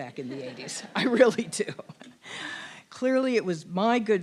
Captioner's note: laugh